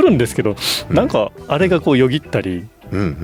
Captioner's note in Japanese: 鼻息